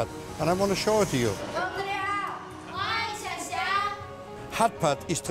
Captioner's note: women speaking in chinese